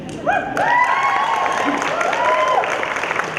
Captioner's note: cheering